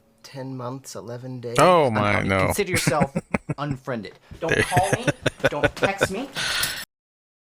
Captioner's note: laughing